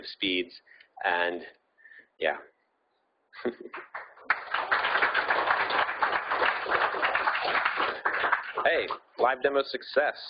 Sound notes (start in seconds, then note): 3.4 laughing; 3.7 audience applauding